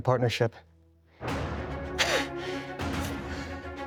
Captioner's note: triumphant music; Bill France Jr. chuckles